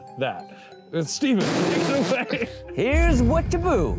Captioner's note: laughs